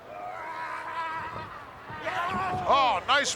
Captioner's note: wrestlers shouting